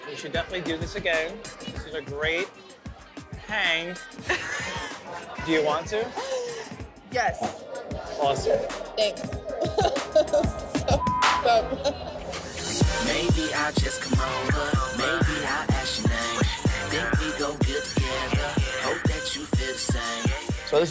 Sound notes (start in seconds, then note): 4.2 laughing; 7.4 laughs; 10.9 beep; 11.8 upbeat music